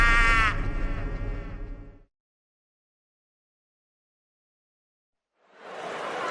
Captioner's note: laughter